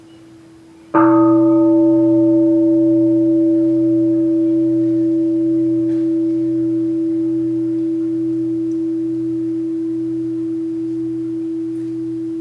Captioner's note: the bell is invited to sound